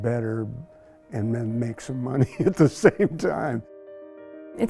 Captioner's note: laughs